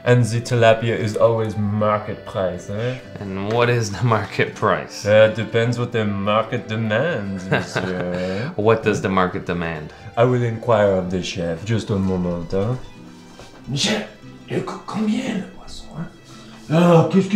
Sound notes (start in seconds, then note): 7.2 laughing